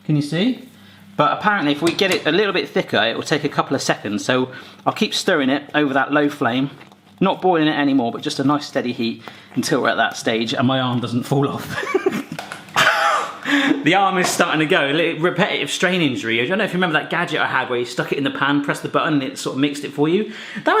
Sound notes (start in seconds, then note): 11.6 chuckling